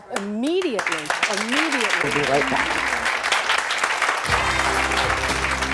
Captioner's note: audience clapping